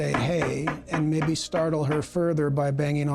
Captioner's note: knocking